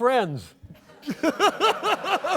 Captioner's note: laughter